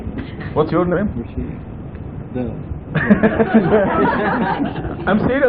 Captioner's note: laughter